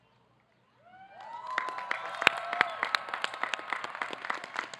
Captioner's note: audience clapping